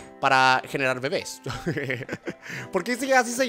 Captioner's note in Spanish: ríe